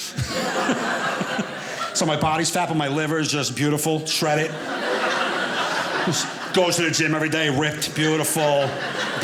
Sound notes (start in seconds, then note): 4.1 audience laughing